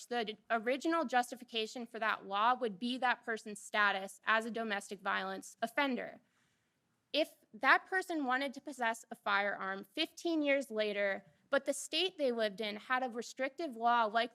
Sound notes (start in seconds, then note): none